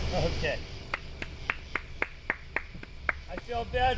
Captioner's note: clapping